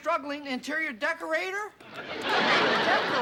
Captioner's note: laughter